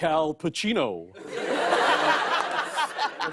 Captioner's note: laughter